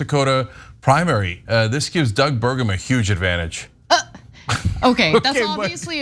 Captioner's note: laugh